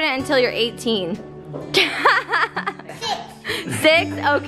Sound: laughs

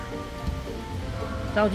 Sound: thuds

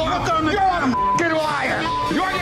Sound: beep

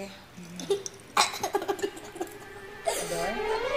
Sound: laughing

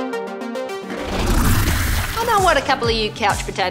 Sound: upbeat music; fluid splash

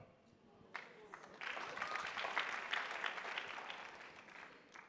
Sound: attendees applauding

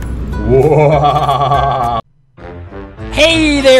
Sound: sinister laughter

